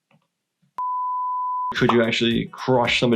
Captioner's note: beeping